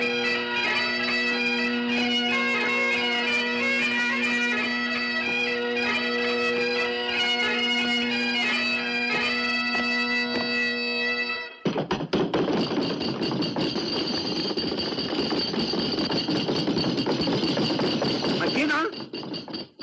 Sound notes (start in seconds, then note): 11.6 pounding table; 12.0 bagpipes end